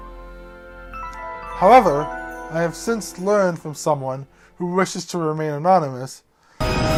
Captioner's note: Arthur flashback sound effect